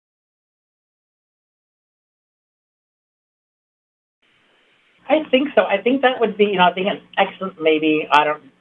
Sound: silence

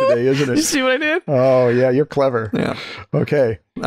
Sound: laughter

